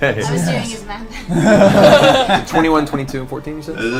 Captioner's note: all laugh